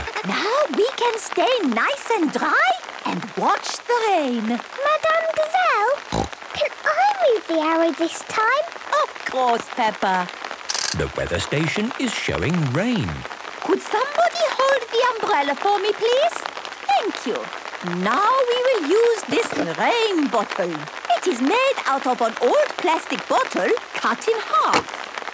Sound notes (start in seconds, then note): 0.0 laughter; 6.0 snorting